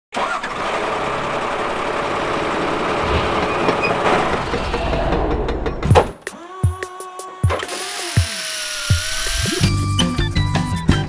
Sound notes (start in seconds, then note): 0.1 truck starting; 4.0 hammering, drilling